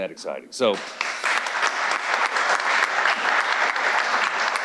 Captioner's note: audience applauding